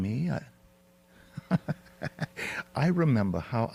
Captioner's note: chuckles